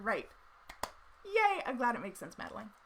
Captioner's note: claps